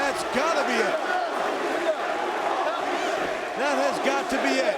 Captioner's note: crowd chattering